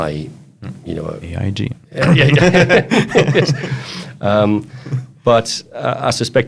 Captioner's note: both laughing